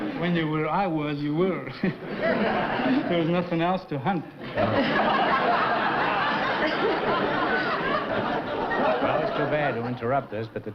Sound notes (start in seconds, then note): 1.7 laughter